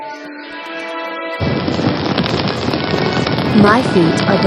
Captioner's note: feet sizzling